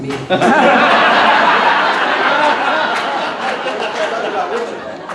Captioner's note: audience laughing